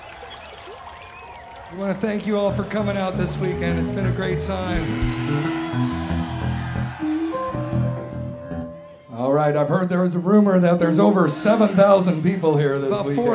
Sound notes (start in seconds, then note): 4.9 crowd cheering; 5.7 tuning guitars